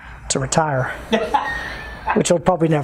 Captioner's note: laughs